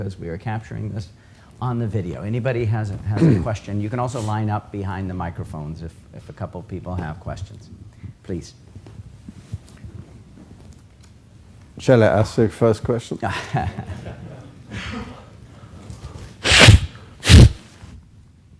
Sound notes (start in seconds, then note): 13.2 laughter